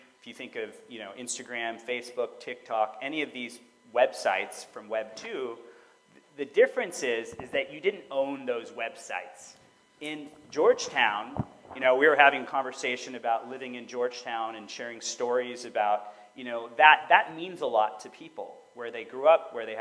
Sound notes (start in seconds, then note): none